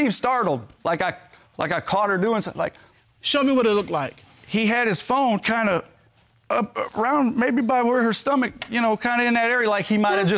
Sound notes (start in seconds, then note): none